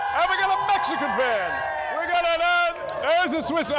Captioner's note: cheering